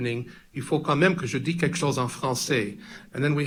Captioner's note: speaks in french